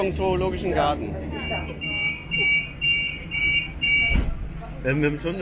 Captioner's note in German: Signal Tür schließt